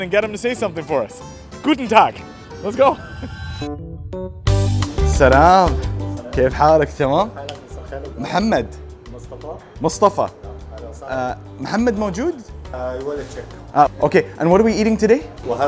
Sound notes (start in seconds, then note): 1.7 speaks German; 3.7 jaunty music; 5.3 speaks Arabic; 7.5 host speaks Arabic; 10.9 speaks Arabic